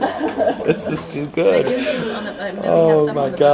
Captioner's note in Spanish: Risas